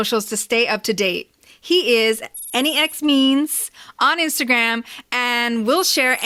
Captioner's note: sci fi computer typing sound